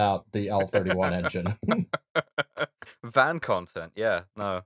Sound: laughter

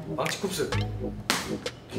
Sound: wham!

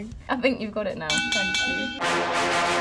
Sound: bell rings; dramatic music

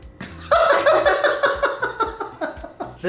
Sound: deep belly laugh

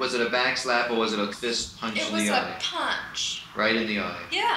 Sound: voiceover

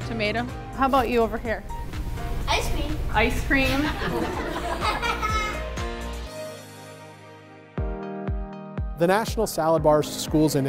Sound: laughs

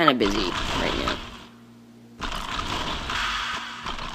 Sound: boulder trembling

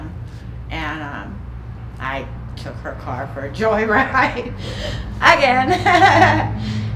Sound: laughing

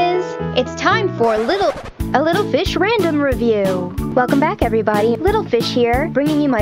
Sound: record scratch

